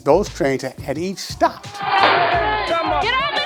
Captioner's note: gun blasting